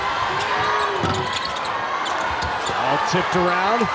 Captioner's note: audience cheers